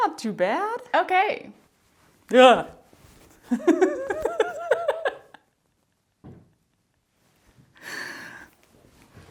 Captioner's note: laughter